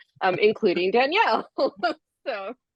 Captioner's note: laughs